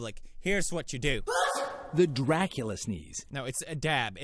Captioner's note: girl sneezes